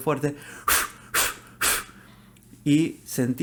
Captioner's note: blows